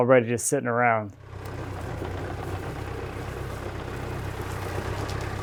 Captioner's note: engine rumbling